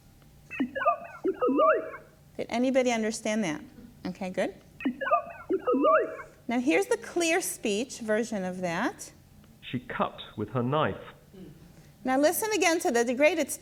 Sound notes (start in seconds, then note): 0.1 voice speaks distorted, machine-like speech; 4.9 voice speaks distorted, machine-like speech; 9.3 voiceover